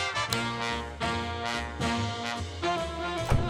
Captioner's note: tool snips